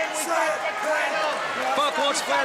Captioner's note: crowd chatter